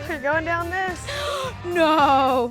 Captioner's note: gasps